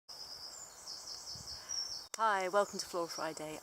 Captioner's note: birds chirping